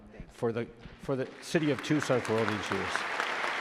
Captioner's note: audience claps